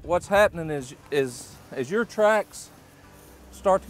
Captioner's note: none